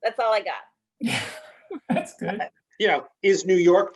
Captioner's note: laughs